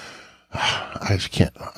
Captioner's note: sighs